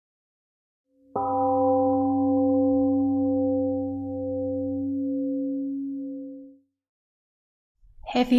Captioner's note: Temple Gong rings and slowly fades out